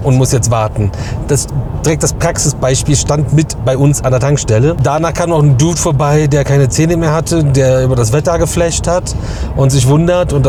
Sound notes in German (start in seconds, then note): none